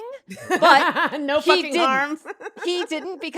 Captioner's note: laughs